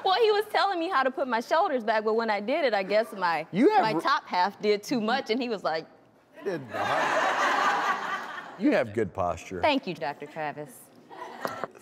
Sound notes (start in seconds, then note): 6.7 audience laughs